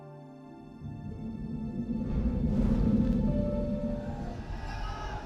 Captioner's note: air whooshing; people screaming